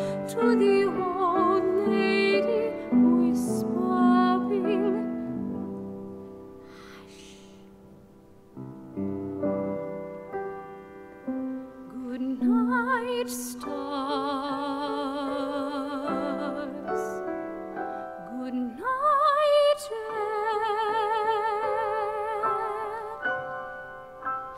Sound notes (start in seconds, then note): 6.6 whispering; 10.0 gentle piano music